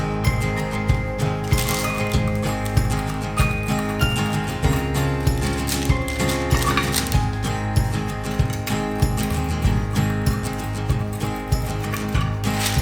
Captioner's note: slices